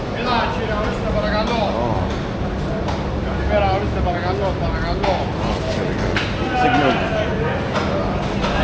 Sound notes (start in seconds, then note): 4.8 speaking in foreign language; 7.3 crowd chattering